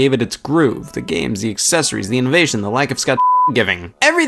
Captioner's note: beep